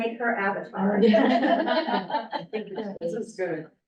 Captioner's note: laughter